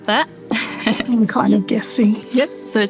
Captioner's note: preceptor chuckling